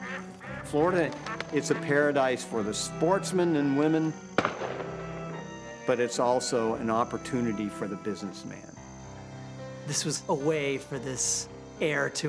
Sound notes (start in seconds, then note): 0.0 duck quacks; 4.3 gunshot echoes